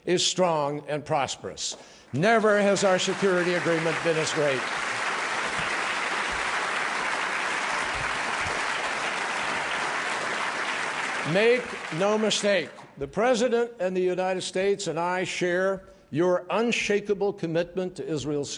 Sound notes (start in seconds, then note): 8.2 applause